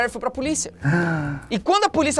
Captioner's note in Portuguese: faz som de surpresa